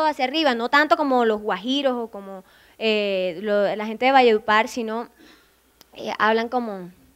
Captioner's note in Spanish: con acento cordobés